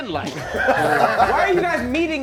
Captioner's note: laughing